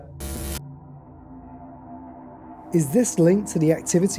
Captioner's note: eerie humming vibration